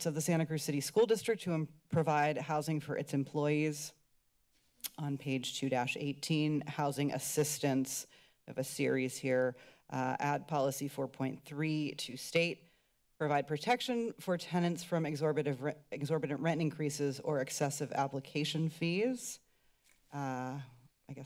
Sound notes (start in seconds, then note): none